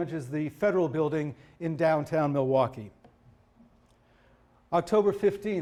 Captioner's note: none